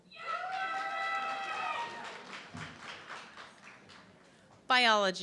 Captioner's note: audience clapping and cheering